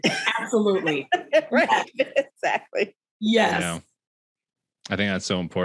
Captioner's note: laughing